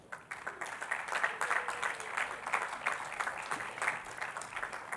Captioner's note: attendees clapping